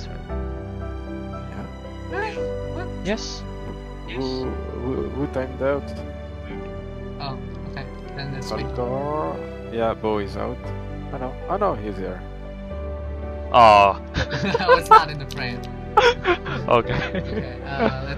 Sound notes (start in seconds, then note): 14.1 laughs